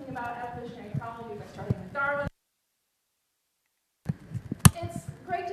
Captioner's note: silent